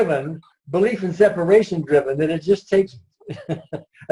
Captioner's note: laughs